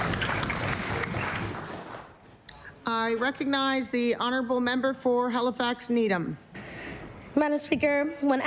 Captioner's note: applause